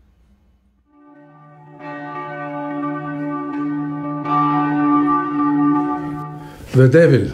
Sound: church bell

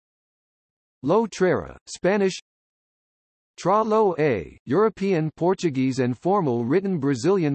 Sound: Spanish

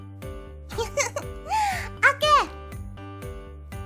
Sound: random giggle

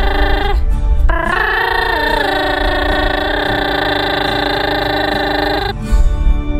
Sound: platypus chatter

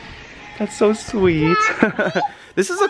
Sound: laughs

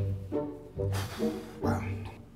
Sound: heavy sigh

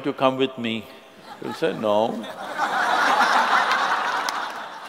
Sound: laughter

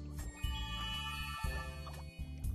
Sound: tinkling

